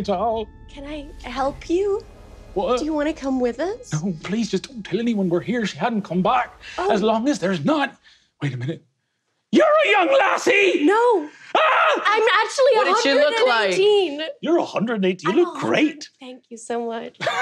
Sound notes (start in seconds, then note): 11.6 shouting; 17.2 laughs